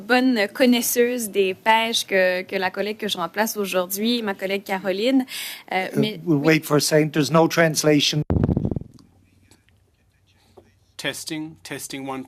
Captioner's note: speaking french